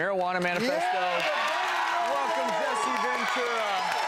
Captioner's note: audience cheers